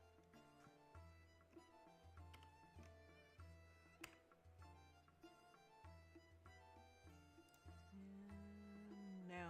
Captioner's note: mouse and keyboard clicking